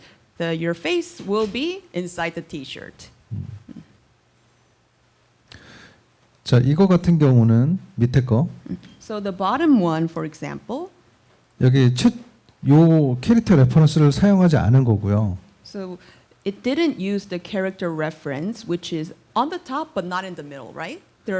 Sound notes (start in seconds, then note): 6.4 speaking korean